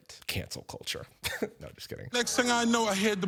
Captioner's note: scoffs